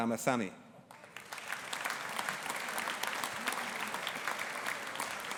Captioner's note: audience applauding